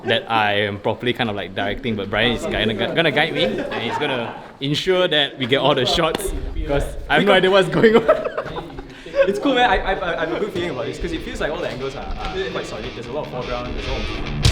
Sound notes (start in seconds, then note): 7.1 laughs